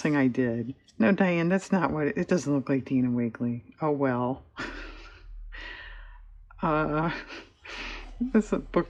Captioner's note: laughs